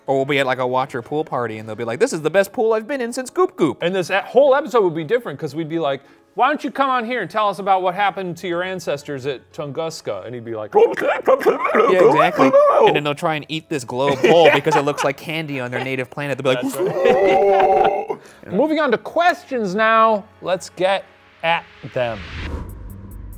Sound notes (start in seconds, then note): 11.1 mimics alien language; 16.6 grunts; 23.1 eerie music